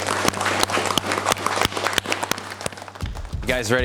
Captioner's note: applause